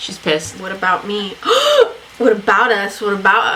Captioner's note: gasps